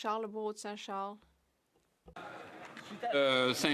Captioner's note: applause